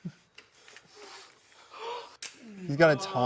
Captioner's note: gun clicks